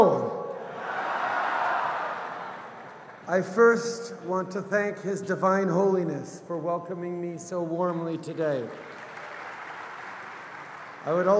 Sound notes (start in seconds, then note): 8.5 applause